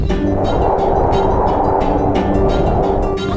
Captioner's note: wind whirring